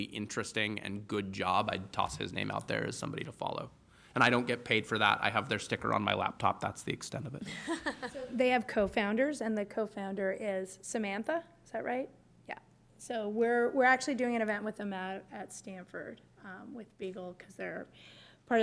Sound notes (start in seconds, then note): 7.4 laughter